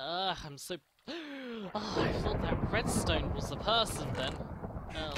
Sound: gasp

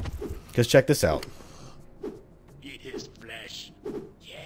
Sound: cannibals whiffing and taunting

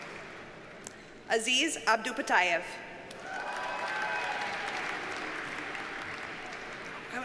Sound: audience cheers and applauds

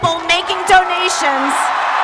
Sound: applause, Chanting

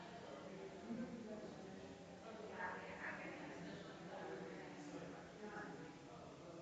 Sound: people chattering distantly continues

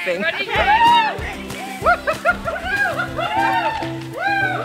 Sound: group hooting

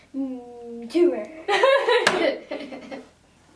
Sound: laughing

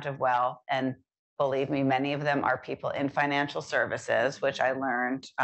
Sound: none

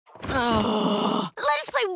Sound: sighing

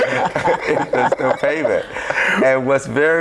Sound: group laughs

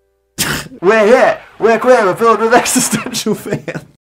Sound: Dan laughs

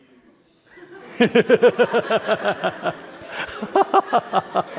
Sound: laugh

